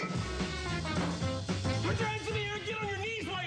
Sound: blows air

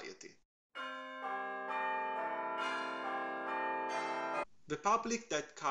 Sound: chiming bells

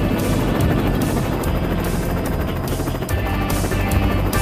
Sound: whirring

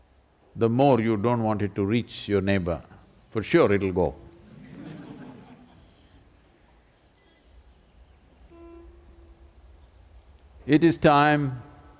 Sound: laughter

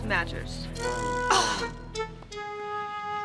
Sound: Lila scoffing

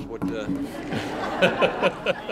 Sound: laughing

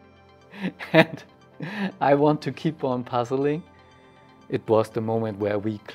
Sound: laughs

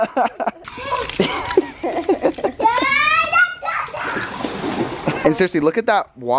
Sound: parents laughing, children yelling

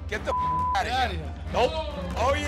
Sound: beep

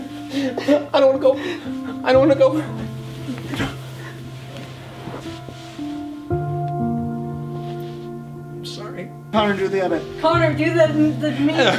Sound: laughs

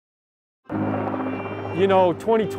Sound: helicopter blades slap

